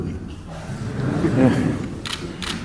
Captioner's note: laughter